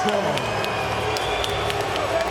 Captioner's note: crowd cheering